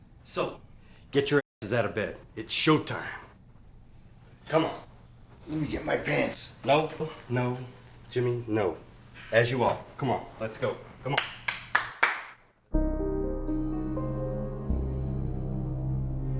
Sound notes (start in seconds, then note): 11.1 hands clapping; 12.7 suspenseful music